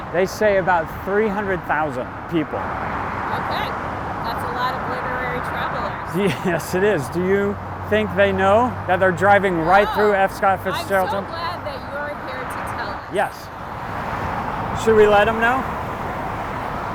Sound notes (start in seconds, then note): 6.1 chuckles